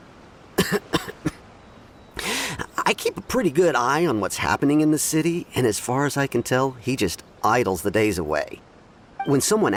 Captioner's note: cough